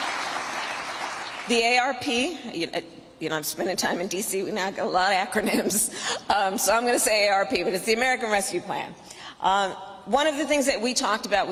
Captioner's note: applause